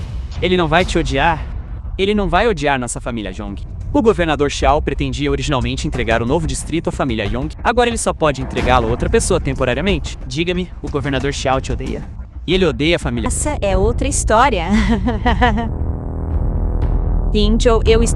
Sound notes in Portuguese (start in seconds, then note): 14.7 risadas